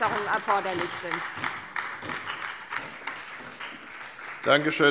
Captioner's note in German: Beifall bei der SPD